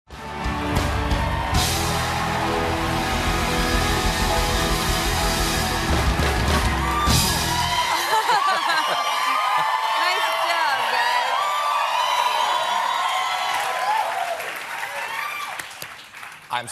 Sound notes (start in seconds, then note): 0.1 band playing; 1.0 cheers and applause